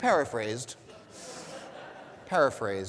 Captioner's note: audience laughing